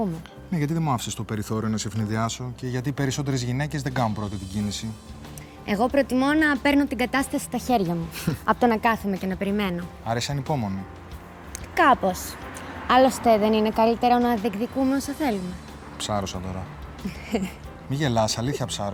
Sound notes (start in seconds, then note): 17.0 laugh